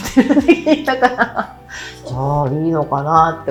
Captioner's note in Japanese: 笑い